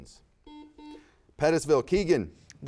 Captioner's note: buzzer beeps